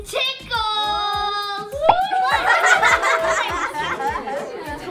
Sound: laughter

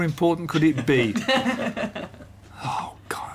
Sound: laughter

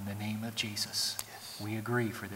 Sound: whispering

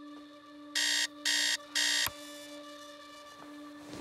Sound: alarm blares

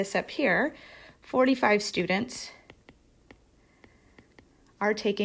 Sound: pen scribbling

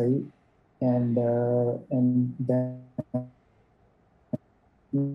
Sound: audio distortion

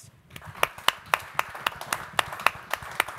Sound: clapping

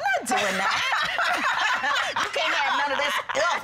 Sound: laughing

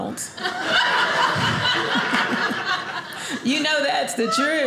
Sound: audience laughing

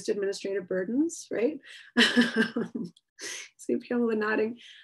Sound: laughs

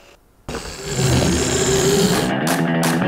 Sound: loud whirring; very loud whirring; intense music

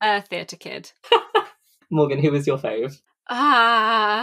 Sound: laughs

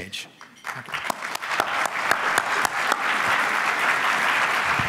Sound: audience applauds

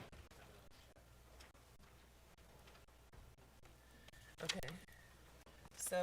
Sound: indistinct conversation

